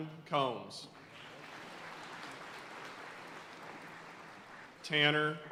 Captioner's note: audience cheering and applauding